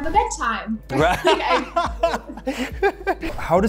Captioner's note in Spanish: risas